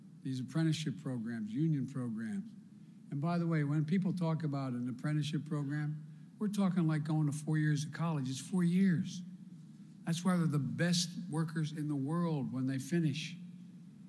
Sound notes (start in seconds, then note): none